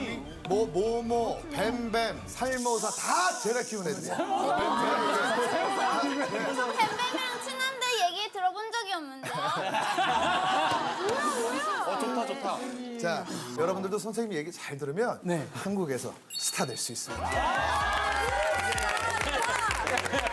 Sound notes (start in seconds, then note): 9.3 hehehehehe